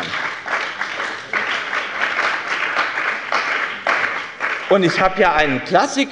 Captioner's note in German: Beifall bei dem BÜNDNIS 90/DIE GRÜNEN sowie bei Abgeordneten der CDU